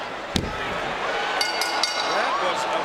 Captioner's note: bell rings